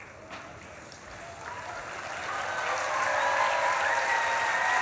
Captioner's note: audience claps and cheers